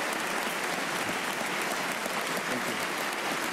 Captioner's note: applause